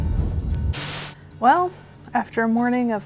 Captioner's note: static